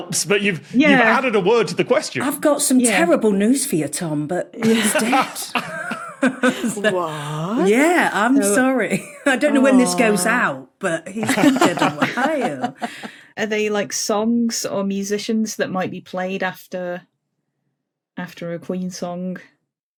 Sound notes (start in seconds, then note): 4.6 group laughing